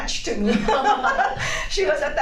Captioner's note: laugh